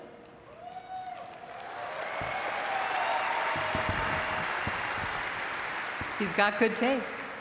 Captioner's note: audience cheering and clapping